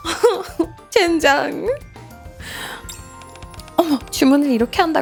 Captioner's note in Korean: 헉 소리